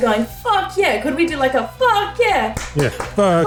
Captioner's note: clap clap clap